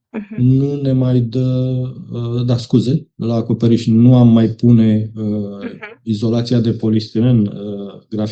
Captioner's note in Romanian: voce dreasă